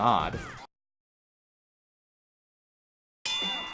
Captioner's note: silence